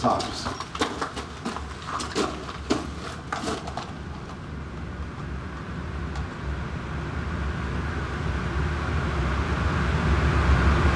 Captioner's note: footsteps